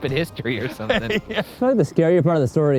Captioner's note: laughs